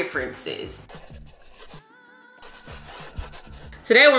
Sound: muffled gentle music; chalk brushing

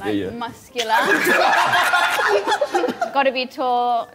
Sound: Sidemen laughing

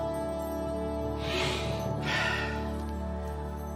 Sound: sniffs

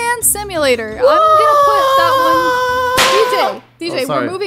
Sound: DJ screaming

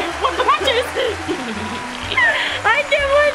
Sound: laughing

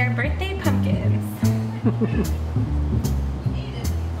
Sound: laughter

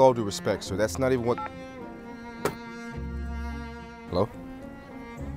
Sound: call ended tone

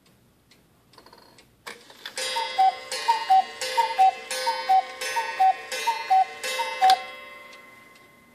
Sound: clock chimes and cuckoo-whistles

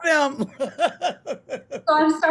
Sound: laughing

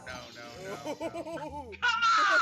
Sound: laugh

